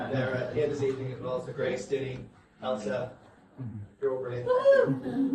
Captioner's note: guests laugh